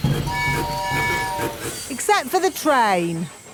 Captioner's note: train tooting